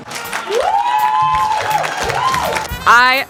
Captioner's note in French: Applaudissements